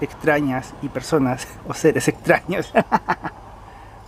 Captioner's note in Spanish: risas